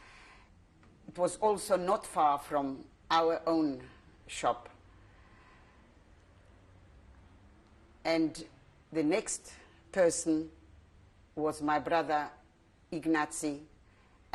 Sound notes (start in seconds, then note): 4.7 pauses for 3 seconds